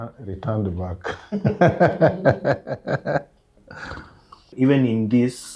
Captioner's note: laughs